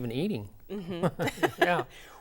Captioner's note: laughing